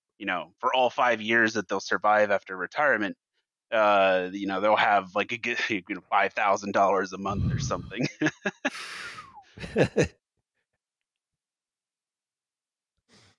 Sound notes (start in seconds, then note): 7.6 slight laughter; 8.7 whistles